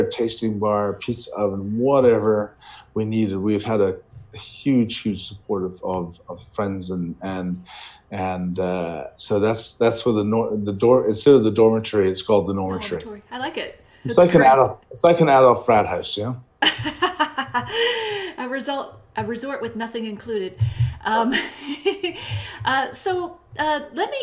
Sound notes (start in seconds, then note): 16.6 laughing; 23.1 laughs